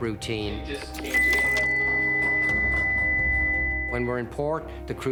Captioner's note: alarm blaring